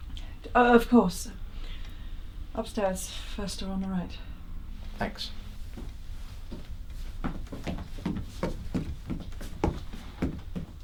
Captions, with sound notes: Of course. Upstairs, first door on the right. - Thanks. (footsteps)